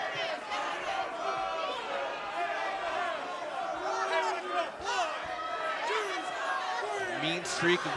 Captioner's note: fans chanting